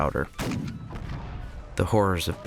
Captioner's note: cannons boom